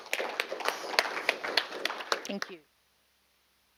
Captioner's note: people clap